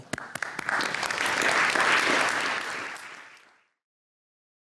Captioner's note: applause